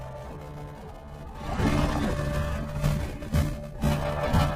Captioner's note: Kaufmo growls; sneaky music plays